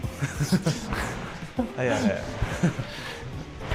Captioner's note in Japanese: 笑い